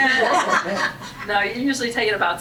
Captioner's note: laughing